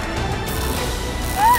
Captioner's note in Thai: เสียงไฟช็อต